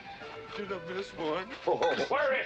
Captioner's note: laughing